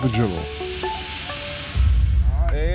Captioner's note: gentle music; logo whooshing